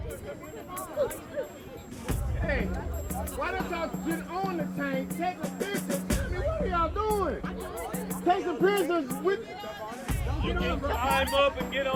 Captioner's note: students talking